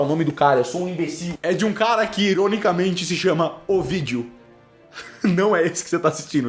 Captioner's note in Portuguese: risos